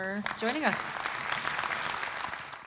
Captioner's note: applause